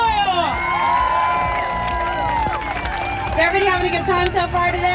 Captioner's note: crowd cheers